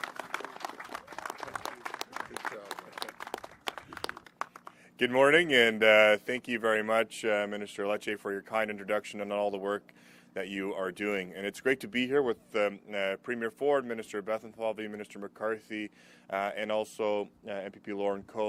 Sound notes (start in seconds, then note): 6.8 applause